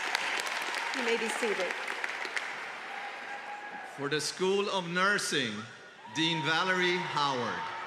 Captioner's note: applause